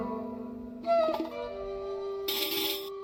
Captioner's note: siren wailing